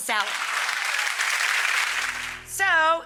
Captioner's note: audience applauds